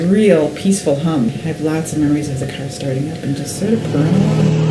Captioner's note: motor running